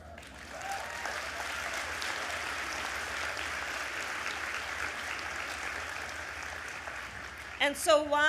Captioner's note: applause